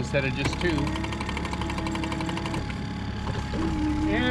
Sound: winch motor running

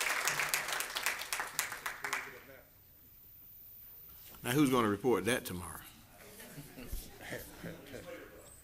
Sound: applause

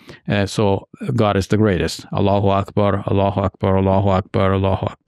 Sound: speaks in Arabic

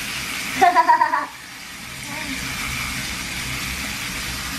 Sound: laughs

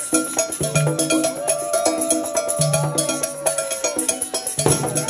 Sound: people cheering

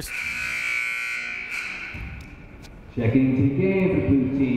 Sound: buzzer sounding

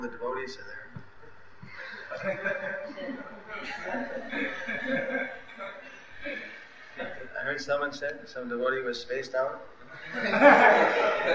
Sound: laughter

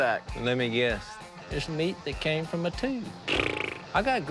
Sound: flaps lips

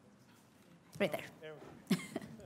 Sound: chuckles

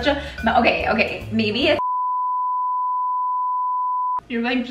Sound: beep

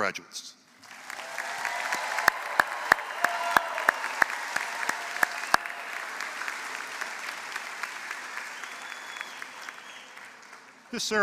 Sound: applause

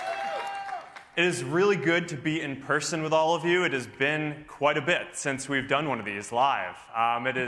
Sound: cheers and applause

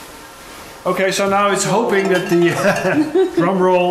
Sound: laughs

